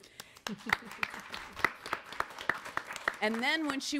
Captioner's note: audience applauds